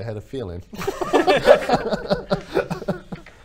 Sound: resigned laughter

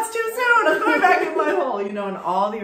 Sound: laughs

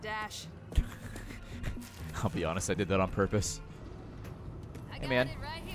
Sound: laughs

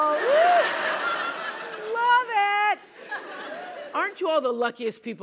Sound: laugh

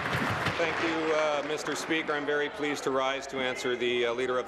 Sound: applause

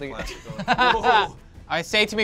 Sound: laughs

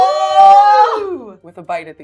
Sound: gamers cheering

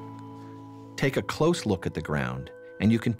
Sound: voiceover

